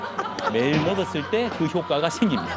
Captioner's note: laughing